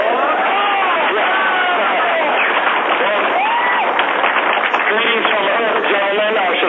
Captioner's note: cheering